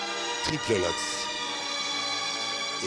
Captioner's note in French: none